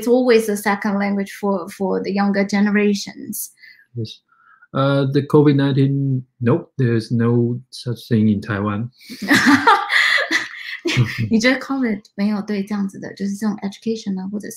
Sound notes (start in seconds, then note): 9.0 chuckle; 13.3 speaks mandarin